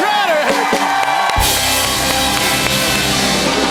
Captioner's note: cheers and applause